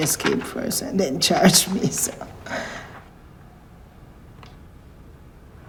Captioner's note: chuckling